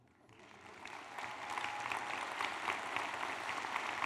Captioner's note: applause